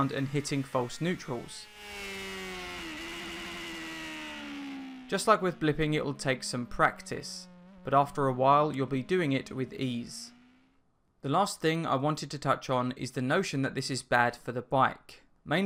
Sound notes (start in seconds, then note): 2.1 engine revving